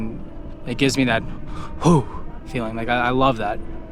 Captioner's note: shudders